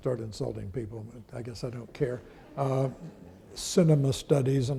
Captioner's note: audience laughing